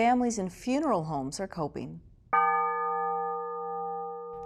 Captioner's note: bell ringing